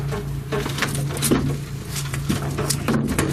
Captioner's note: loud thumping